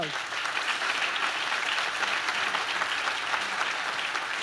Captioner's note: audience claps